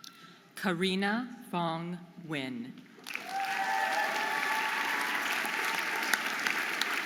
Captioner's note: audience applauding and cheering